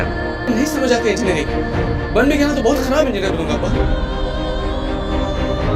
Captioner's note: speaking in foreign language